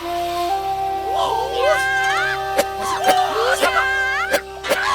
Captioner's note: children shouting